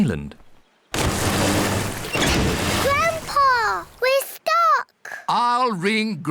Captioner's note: rumbling